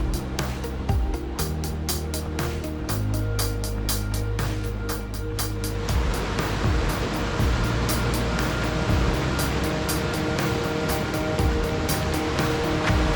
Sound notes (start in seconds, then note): 5.4 water rushing